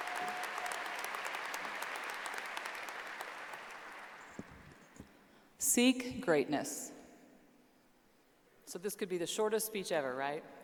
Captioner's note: applause